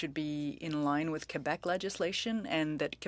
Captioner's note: speaking french